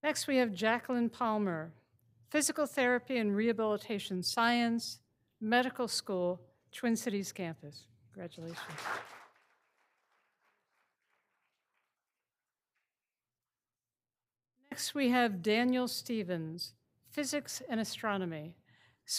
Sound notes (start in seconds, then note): 8.4 all applauding